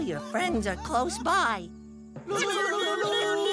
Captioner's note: laughing